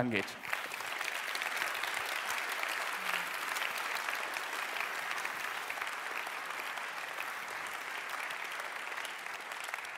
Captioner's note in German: Applaus